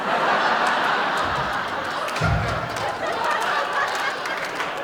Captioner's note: laughter